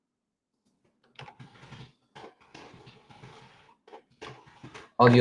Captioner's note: keyboard clacking